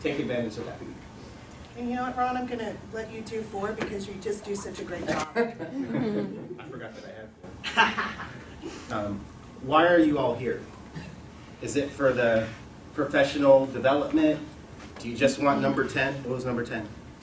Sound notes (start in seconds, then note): 5.5 laughter